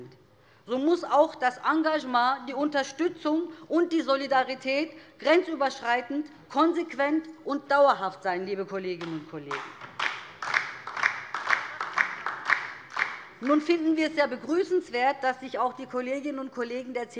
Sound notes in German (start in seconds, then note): 9.4 Beifall DIE LINKE